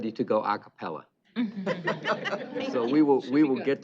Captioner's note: laughter